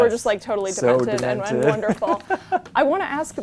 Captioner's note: laughs